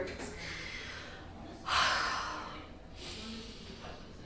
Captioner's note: sighs